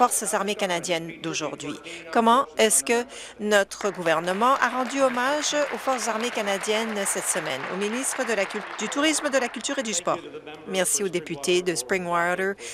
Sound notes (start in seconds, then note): 7.4 applause